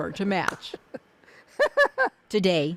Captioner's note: laughing